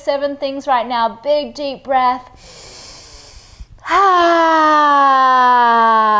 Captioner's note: inhales breath